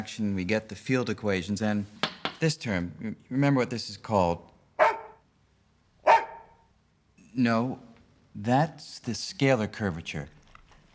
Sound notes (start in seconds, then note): 6.0 barks twice